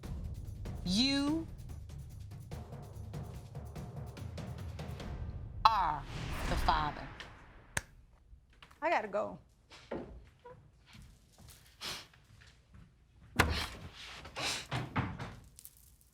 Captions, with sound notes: you are the father. I got to go. (SNIFFS)